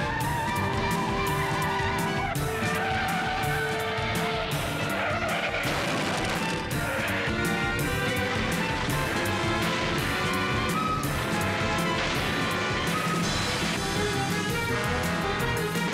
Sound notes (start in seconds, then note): 2.2 tires screeching; 13.0 crashes